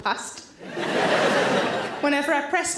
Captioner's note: audience laughter